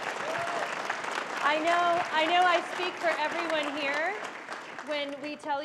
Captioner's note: applause